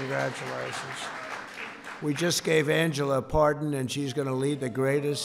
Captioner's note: applause